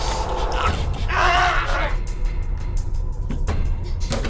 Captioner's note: Gus yelling; suspenseful music